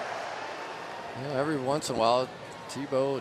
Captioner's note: players shouting